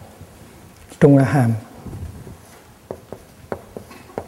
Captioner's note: Vietnamese